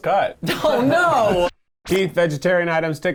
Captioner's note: laughs